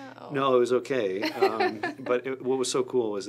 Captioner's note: laughs